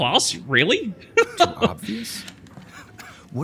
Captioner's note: laughs